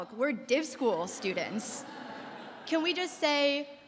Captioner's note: laughter